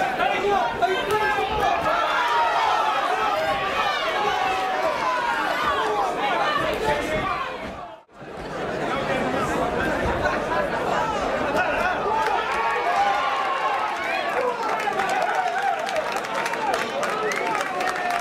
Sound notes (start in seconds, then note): 11.8 crowd cheering and clapping